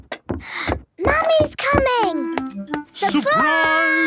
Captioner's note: footsteps approaching